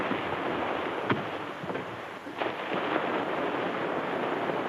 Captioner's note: feet thud